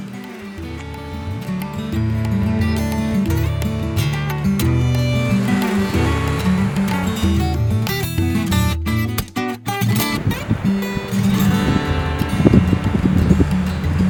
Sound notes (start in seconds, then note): 0.2 mellow music continues; 5.6 waves crash